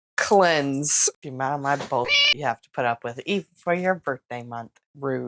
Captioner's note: meow